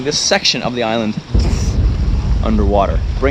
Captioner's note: explosion